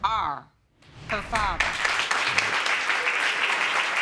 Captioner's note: applause